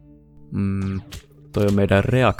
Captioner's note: wondering sounds